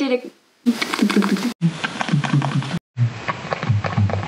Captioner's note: makes weird noises